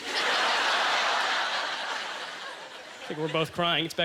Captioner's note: audience laughter